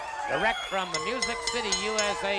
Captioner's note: bell rings